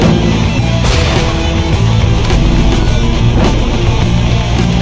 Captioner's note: explosion booms